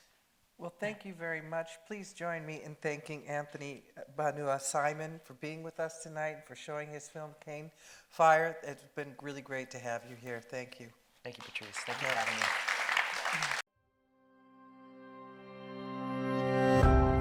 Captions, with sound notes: - Well, thank you very much. Please join me in thanking Anthony Banua-Simon for being with us tonight and for showing his film "Cane Fire." It's been really great to have you here. Thank you. - Thank you, Patrice. Thank you for having me. (audience applauding) (gentle music)